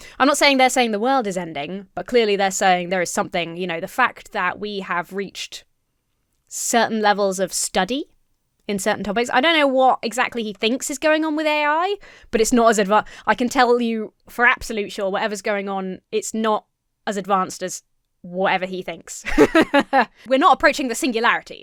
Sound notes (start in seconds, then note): 19.2 laughs